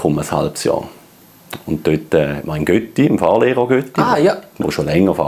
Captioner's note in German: Schweizerdeutsch